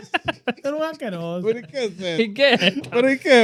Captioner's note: laughing; speaking In Foreign Language